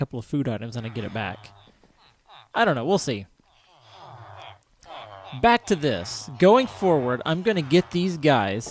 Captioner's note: villagers clamoring